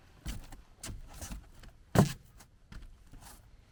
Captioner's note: none